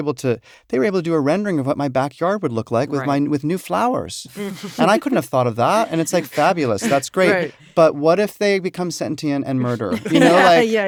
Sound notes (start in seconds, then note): 4.3 chuckle; 9.6 laughter